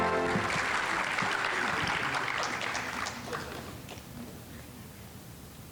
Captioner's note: audience applauding